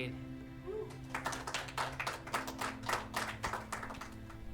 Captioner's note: applauding